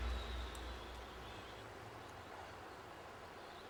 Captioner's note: none